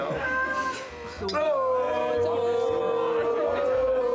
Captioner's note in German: Johlen